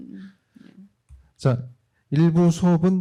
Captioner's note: speaking korean